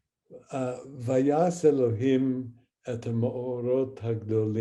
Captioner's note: speaking hebrew